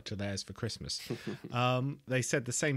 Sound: laughs

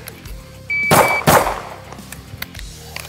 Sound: timer beeps; gun bangs; metal rock music

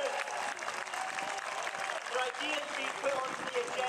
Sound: audience applauding

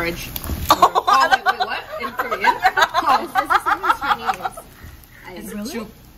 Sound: laughs like a maniac

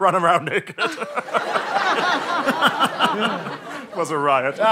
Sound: laughs

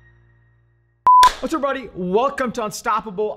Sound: digital beep

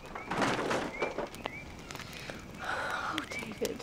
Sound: clatter

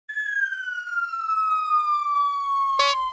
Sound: you can hear space sounds; you can hear a siren

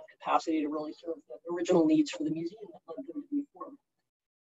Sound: murmurs

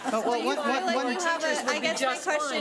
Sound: group chatter

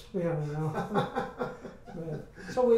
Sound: men laugh

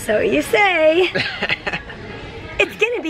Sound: chuckles

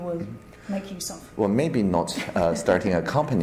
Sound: laughs

